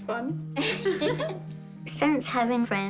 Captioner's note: both laugh